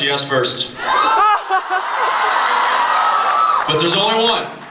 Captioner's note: laughs, screams